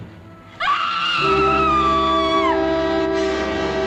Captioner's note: scream